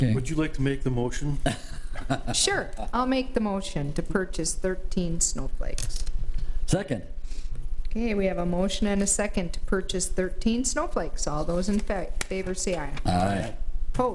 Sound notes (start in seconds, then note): 1.4 trustee laughs